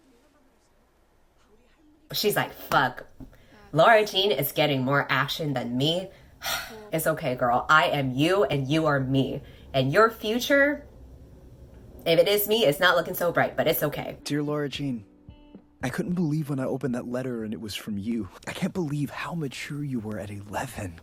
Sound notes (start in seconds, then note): 6.4 𝘩𝘦𝘢𝘷𝘺 𝘴𝘪𝘨𝘩